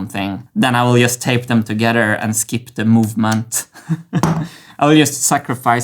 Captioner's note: laughs